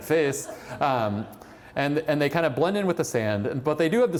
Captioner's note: laughter